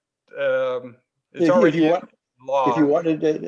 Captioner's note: overlapping chatter